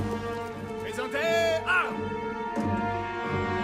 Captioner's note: French